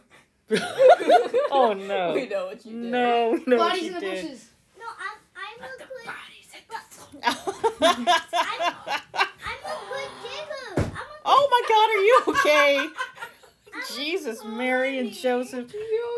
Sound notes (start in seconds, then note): 0.5 laughter; 10.7 hitting head noise; 11.4 laughter